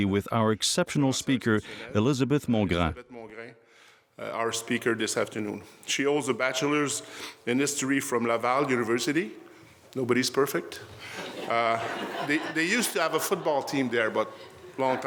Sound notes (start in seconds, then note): 10.9 laughter